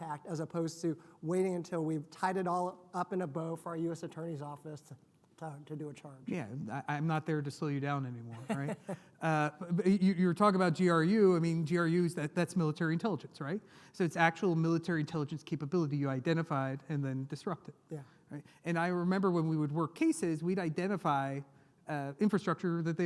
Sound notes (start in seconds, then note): 8.3 laughs